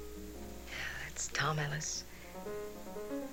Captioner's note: sighs